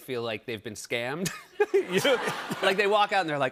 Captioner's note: laughter